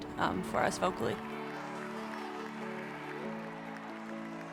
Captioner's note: cheering